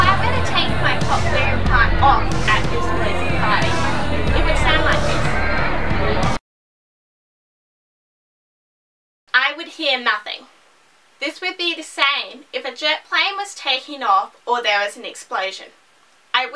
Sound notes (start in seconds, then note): 5.9 silence